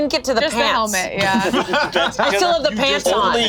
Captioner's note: laughs